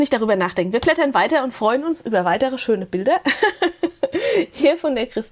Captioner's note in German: gelächter